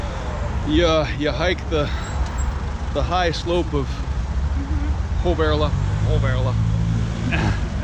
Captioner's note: mispronunciation